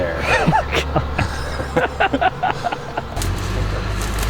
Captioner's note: laughing